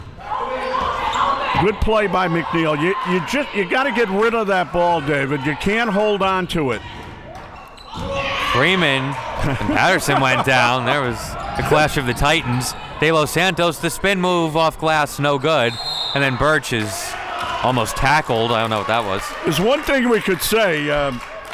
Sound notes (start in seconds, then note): 9.4 laughs; 15.6 whistle blows